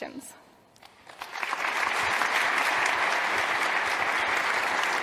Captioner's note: audience applauds